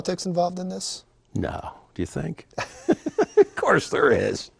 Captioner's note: laughing